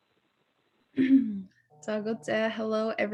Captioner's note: non-english speech